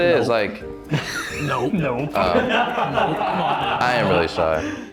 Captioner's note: all laughing